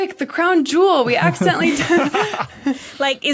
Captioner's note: group laughing